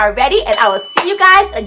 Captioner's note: dinging